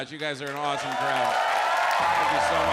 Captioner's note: audience applauds; audience cheers